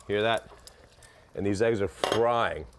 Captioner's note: sizzling